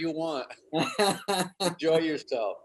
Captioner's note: David laughs